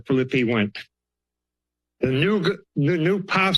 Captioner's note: pause